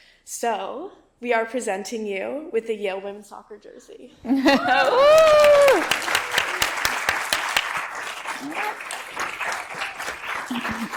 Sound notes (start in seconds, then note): 4.5 audience cheers